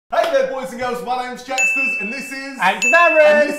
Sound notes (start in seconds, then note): 1.5 ding